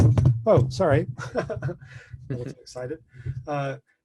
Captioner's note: microphone rattles; laughs